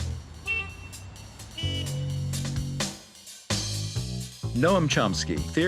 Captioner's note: upbeat music; horns honking